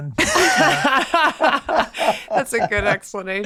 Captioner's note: Glenn, Megan laughing